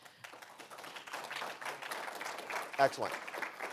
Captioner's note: audience applauding